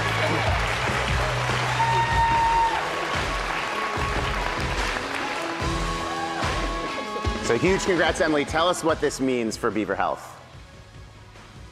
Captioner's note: applause; applause